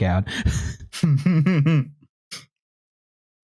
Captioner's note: chuckles